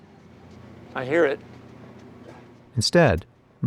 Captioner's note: servers humming